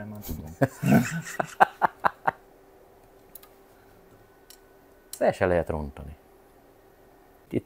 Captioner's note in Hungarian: Nevetés